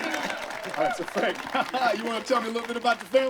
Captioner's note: chuckles